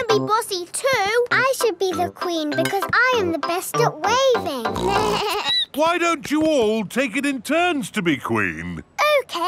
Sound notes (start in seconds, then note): 4.7 bleats; 4.7 snorts